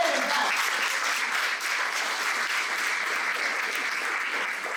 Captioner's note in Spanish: aplauso